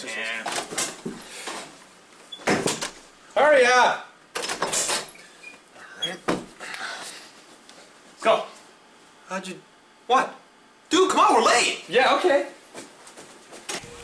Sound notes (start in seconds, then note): 2.3 door opens; 2.4 door clicking closed; 4.4 door opens; 7.0 door closes; 13.8 door clicking closed